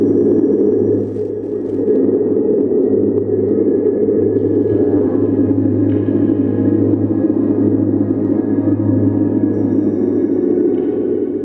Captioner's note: wind